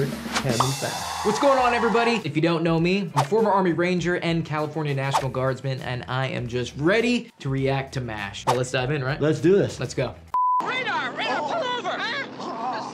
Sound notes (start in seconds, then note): 10.3 beep